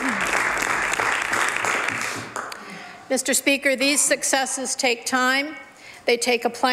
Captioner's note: some Applause